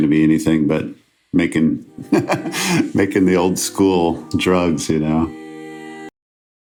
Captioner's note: laughs